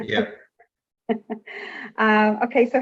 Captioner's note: giggling